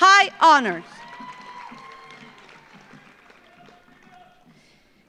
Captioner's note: audience applauds